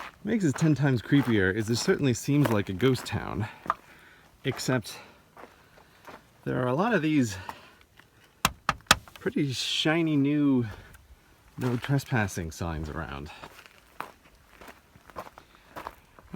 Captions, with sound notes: What makes this 10 times creepier is that this certainly seems like a ghost town. Except. There are a lot of these... *tap*tap*tap* pretty shiny new.... No Trespassing signs around.